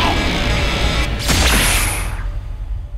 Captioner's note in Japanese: 刺す音